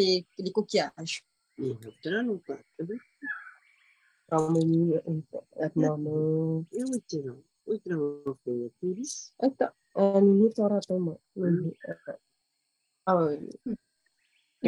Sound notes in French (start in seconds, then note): 1.5 et sa mère parlent paumotu